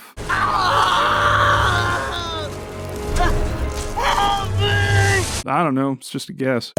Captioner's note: screaming loudly enough for people nearby to hear him